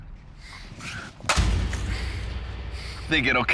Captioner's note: crash